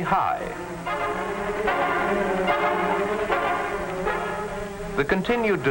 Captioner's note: helicopter blades whirring